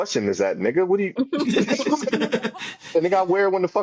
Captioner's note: laughing